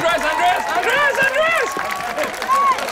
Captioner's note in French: acclamations